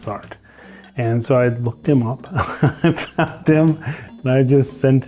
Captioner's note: chuckling